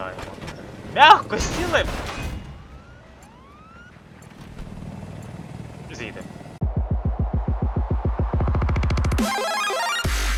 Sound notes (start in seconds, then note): 2.4 helicopter warning ring